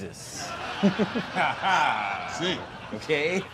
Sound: laughter

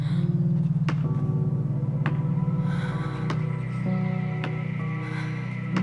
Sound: breathing

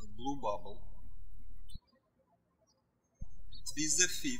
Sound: birds chirping

